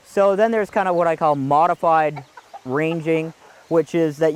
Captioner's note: chickens clucking